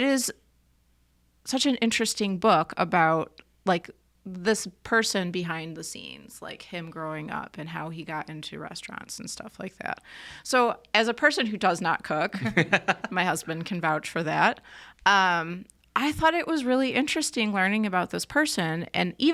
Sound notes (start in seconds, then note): 12.3 laughs